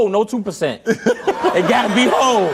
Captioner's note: audience laughs